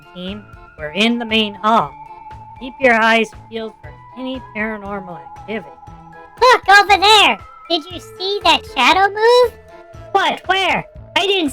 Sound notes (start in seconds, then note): 6.9 excitedly